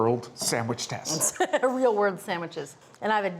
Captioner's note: laughs